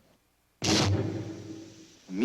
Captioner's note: loud thud